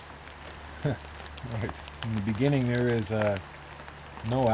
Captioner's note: laughter